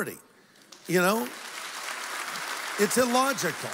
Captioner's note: applause